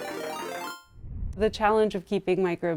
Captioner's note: graphics chiming